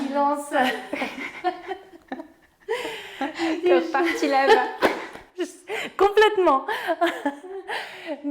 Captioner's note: laugh